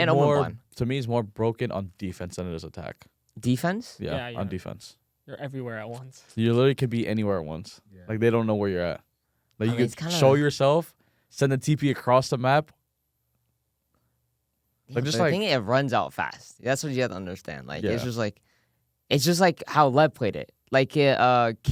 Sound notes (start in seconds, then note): 6.1 laughs